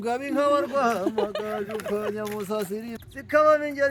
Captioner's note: laughing